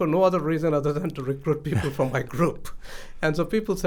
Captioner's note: laughs